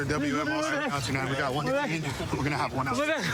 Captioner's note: excited chatter